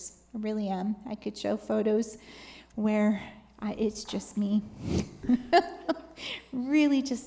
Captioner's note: laughs